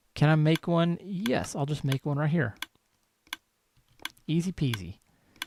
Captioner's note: steady clicking continues